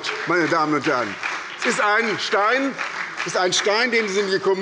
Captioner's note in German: Beifall bei der SPD